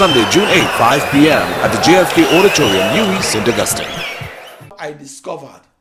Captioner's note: wild applause and cheering for 22 seconds